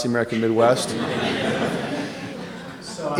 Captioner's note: laughing